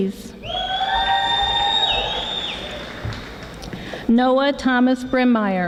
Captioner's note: audience applauding